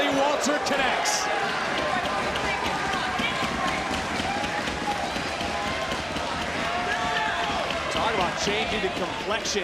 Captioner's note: applause